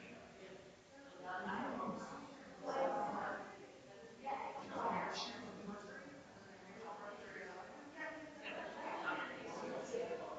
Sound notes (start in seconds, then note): 2.7 people chattering distantly continues